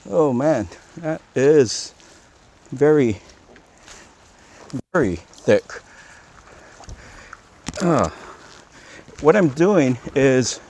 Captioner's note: grunt